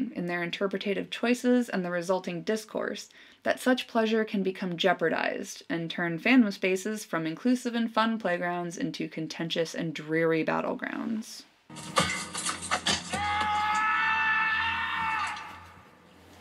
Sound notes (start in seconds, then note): 11.8 sound of metal clanking; 12.4 sound of a toe breaking; 13.1 Aragorn yelling in frustration